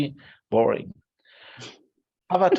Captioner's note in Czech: Smích